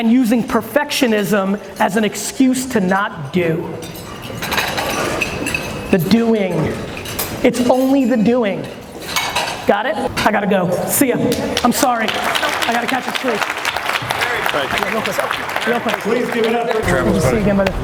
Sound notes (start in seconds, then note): 14.7 audience applause